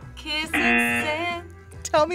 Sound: buzzer

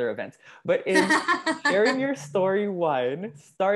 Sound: laugh

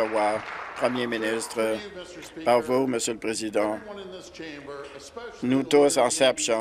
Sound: applause

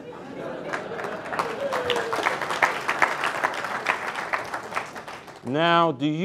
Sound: crowd laughs; crowd claps

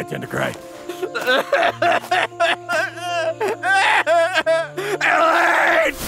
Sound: sorrowful music; Ban crying

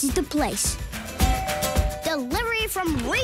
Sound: doorbell rings

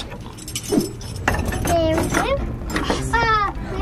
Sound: keys jingling

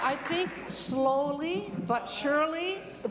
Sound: applause

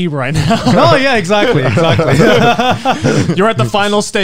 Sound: everyone laughs

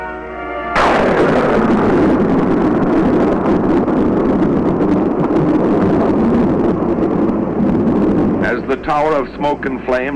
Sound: explosive sound

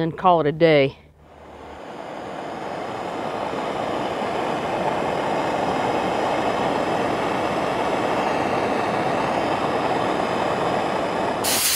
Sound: propane torch sounds

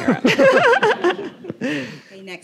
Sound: audience laughing; laughing

